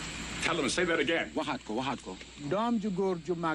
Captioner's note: foreign language